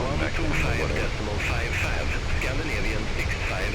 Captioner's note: radio chatter